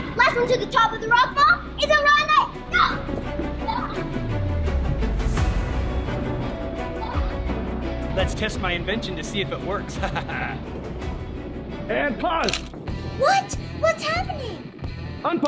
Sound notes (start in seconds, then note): 3.8 suspense music; 9.9 laughs